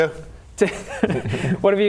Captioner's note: laughs